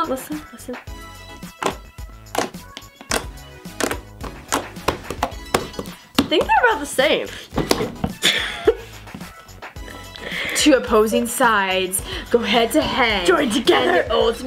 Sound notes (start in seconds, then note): 3.0 squishing; 8.1 laughing